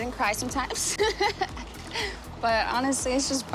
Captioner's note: laughs